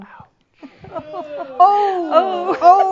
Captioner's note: whispers; someone shouts says “Ohh!”